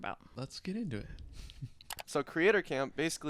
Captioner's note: computer mouse clicking